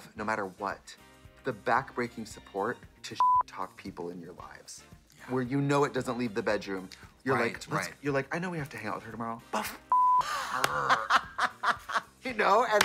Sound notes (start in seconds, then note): 3.2 beep; 9.9 beep; 11.5 Katya guffaws